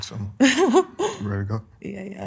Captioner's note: laughing